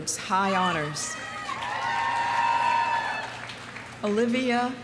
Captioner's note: audience cheering; audience applauding